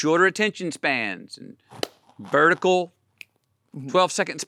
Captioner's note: hands smacking; fingers snapping